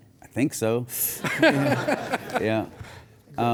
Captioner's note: audience laughs